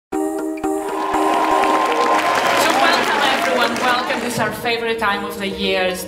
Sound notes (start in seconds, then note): 0.1 upbeat music; 0.7 cheering and applause